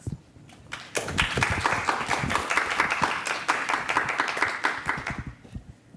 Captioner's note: audience applauds